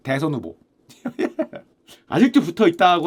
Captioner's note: laughs